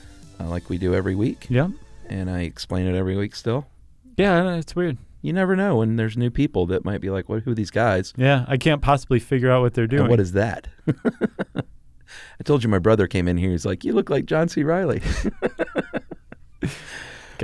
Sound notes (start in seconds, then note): 10.8 laughs; 15.0 laugh